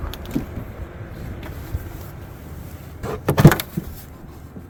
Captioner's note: wind howling